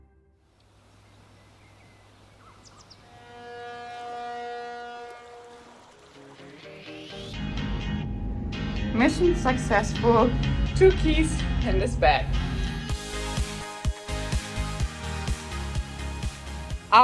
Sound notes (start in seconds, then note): 0.6 birds chirping; 3.4 gentle music; 3.4 water sloshing; 6.3 upbeat music; 13.0 upbeat music